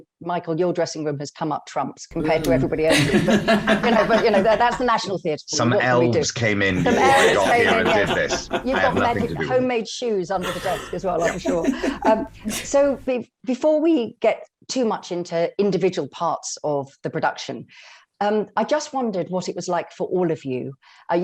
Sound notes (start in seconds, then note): 2.8 laughter; 8.0 laughing